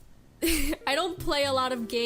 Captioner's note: laugh